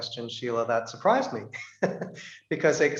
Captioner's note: he chuckles